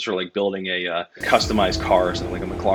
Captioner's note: engine roars